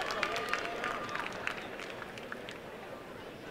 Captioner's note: applause and cheering